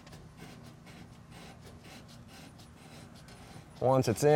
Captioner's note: tool grating